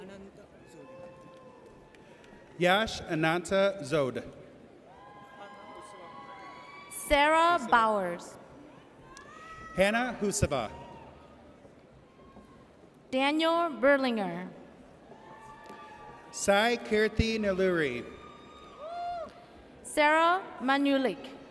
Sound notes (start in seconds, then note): 5.3 audience cheers; 15.4 audience cheers